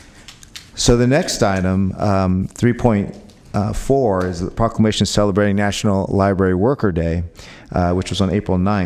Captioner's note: applause